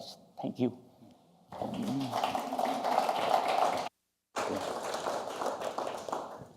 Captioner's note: applause